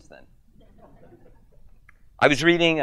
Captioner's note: audience chuckles